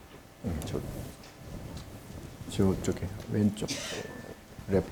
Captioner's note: speaking Korean